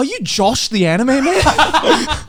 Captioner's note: laughing